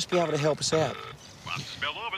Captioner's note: phone rings